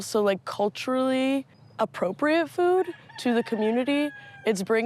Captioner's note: rooster crowing